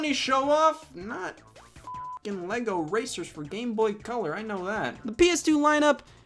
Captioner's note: beeps